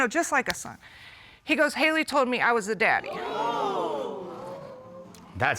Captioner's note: audience exclaims